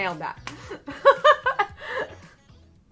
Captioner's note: laughs